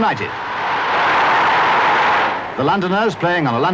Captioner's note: crowd roaring